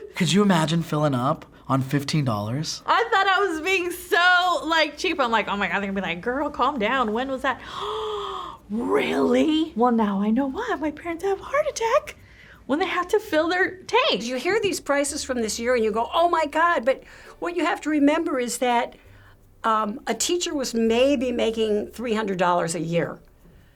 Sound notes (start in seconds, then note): 7.7 gasps